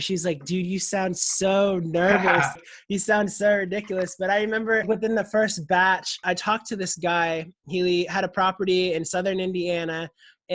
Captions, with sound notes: She's like dude you sound so nervous. - (laughs) - You sound so ridiculous. But I remember within the first batch I talked to this guy he had a property in southern Indiana